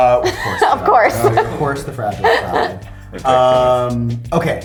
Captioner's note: laughs